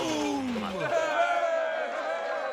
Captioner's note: cheering